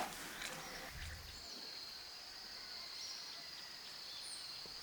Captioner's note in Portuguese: sons da floresta